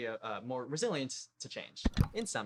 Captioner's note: click